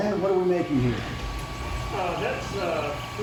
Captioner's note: machines vibrates